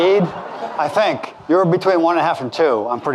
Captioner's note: audience laughing